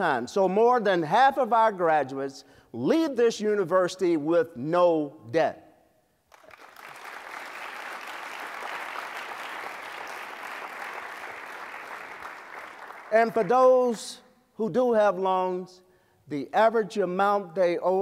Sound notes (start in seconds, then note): 6.2 applause